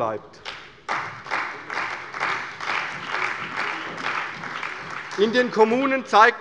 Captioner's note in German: Beifall bei der CDU